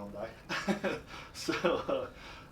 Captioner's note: laughs